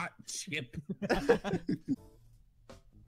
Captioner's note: laughter